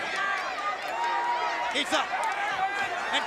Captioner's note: crowd cheering